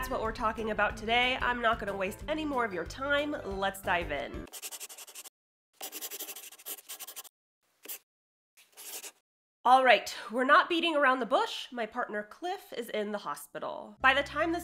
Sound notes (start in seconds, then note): 5.8 the sound of a pen scratching. LOGO